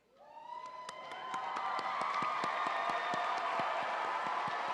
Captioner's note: audience cheering